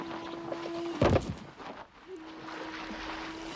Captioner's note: boxes thudding; water splashing